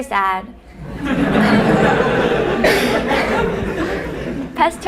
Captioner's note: laughter